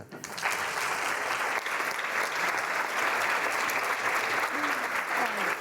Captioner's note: applause